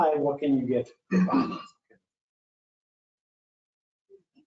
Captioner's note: clearing throat